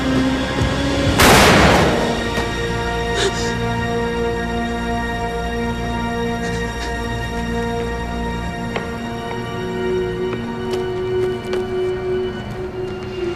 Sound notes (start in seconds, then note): 1.2 gunshot; 3.9 dramatic music